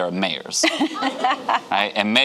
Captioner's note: giggles